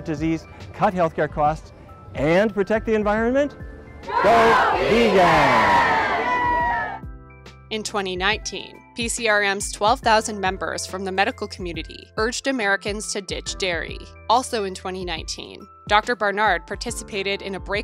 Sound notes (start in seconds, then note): 5.7 cheers